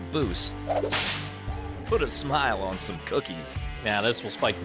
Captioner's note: whips cracks